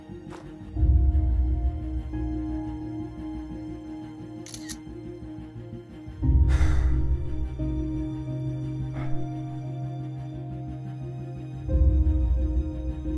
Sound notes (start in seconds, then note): 4.5 clicking; 6.2 sighing; 8.3 uplifting music